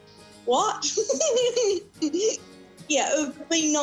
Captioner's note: chuckles